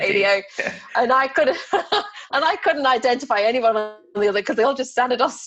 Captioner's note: laughs